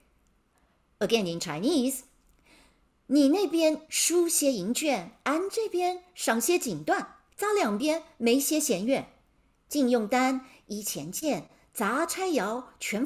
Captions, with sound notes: again, in Chinese, (speaking in Mandarin)